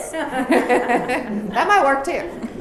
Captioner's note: laughs